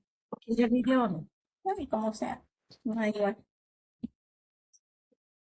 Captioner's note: speaking in Spanish